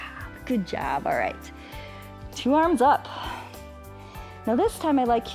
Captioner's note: inhales and exhales